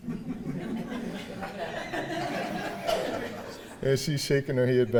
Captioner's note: audience laughing